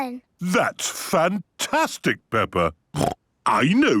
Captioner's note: snorting; snorting